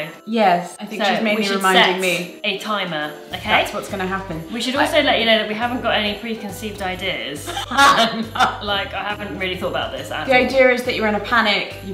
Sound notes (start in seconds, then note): 7.4 laughs